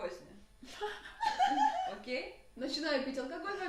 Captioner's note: laughter of improbability